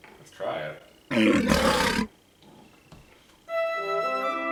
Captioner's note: lion roaring; whimsical music